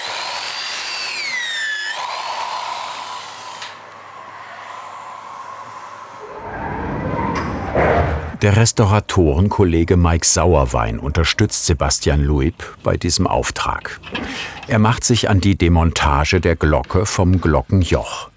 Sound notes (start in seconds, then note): 3.6 the whirring stops